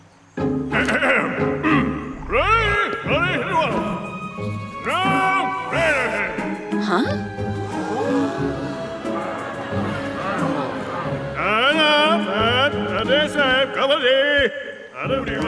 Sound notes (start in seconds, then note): 0.9 Pharaoh clears throat; 2.6 Pharaoh speaks gibberish; 8.3 crowd gasps and murmurs; 11.8 Pharaoh speaks in decisive gibberish